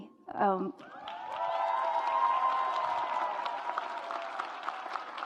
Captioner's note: audience applauds